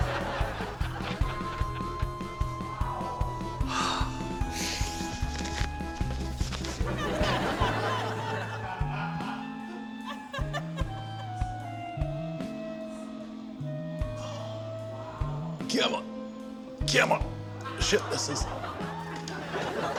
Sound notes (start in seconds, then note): 0.0 shrieks; 2.5 gasps; 6.6 laughter